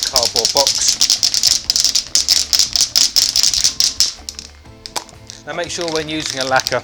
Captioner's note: metallic beads clinking